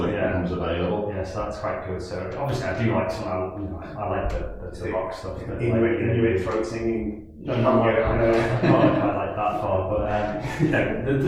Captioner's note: laughing